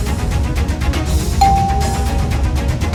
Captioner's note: doorbell ringing